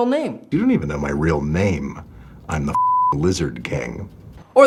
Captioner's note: beep